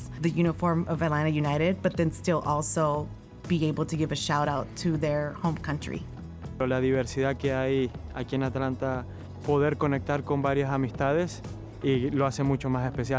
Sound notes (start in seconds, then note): 6.1 speaking in foreign language